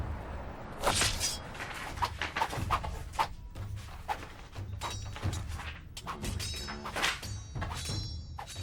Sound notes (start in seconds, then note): 2.2 sword fighting; 2.5 percussive music